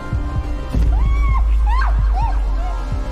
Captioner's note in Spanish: anaís grita